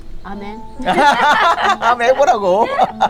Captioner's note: both laughing